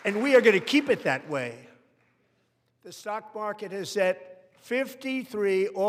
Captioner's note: applause